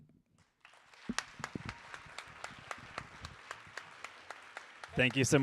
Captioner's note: audience applauding